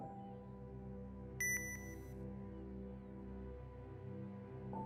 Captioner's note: bomb beeping